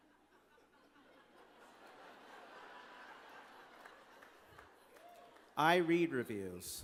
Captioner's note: laughter